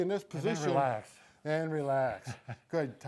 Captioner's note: chuckles